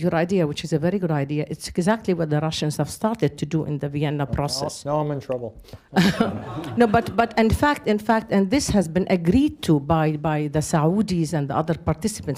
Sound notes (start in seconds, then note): 5.9 laughs; 5.9 laughter